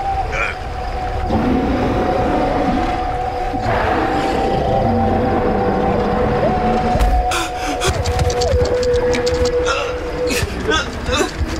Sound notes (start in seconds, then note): 1.3 scorpion monstrously growls; 8.3 scorpion scurries